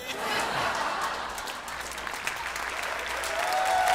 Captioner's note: crowd applauding and cheering